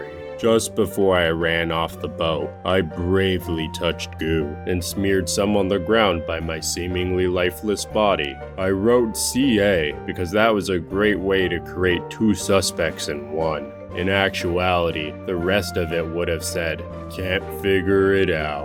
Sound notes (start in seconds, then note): none